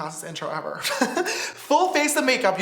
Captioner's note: laughs